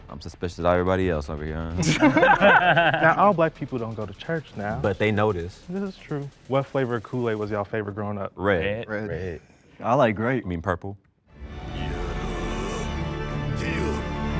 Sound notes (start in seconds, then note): 1.8 men laugh; 11.4 dramatic music